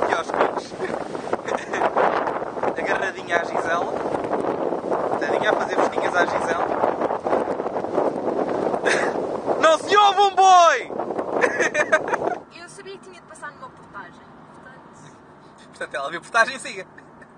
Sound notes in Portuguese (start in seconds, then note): 1.4 Risos; 11.4 Risos